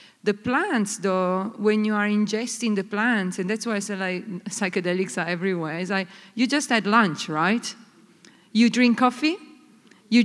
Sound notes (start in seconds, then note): none